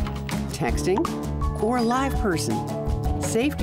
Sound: cellphone chirps; cellphone rings

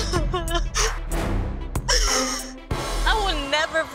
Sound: cries

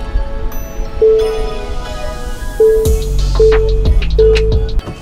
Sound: car bell dinging

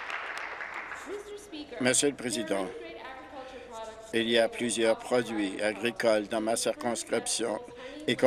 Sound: applause

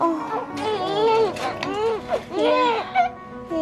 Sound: baby crying

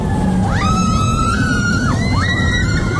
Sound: screaming

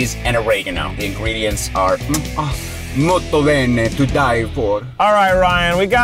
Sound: speaks foreign

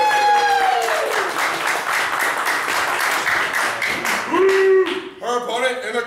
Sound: applause

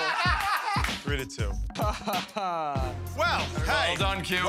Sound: chuckles

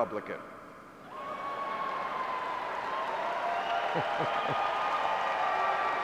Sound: cheering and groaning

